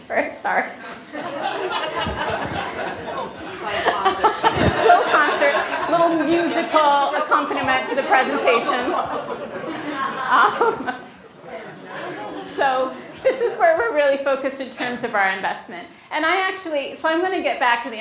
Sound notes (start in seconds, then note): 1.7 laughing